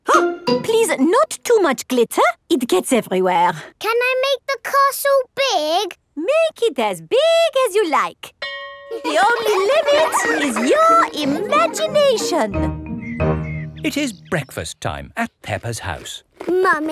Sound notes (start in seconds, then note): 8.4 school bell rings; 8.9 children laughing